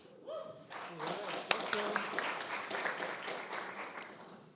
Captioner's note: audience applauds